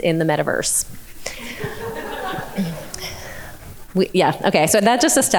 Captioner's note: audience laughing